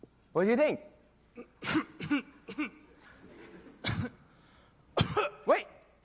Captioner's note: choking